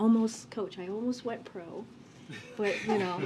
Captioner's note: laughter